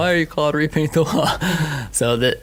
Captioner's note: laughing